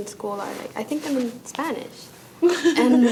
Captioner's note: laughs loudly